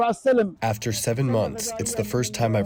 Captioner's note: through translator